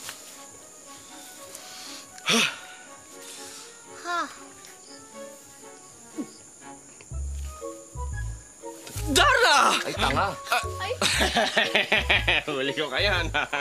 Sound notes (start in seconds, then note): 1.0 exhales; 10.9 laughing